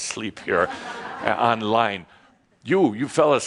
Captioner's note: laughter as he goes to look directly into the camera